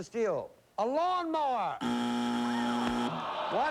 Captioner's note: buzzer